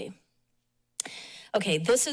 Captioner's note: pause